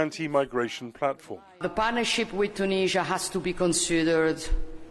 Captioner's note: through translator